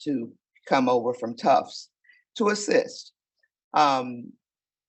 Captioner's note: none